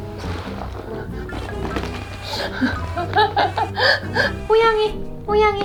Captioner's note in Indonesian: tertawa